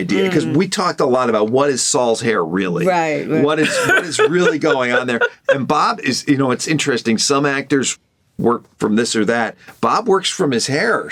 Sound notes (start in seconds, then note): 3.5 laughter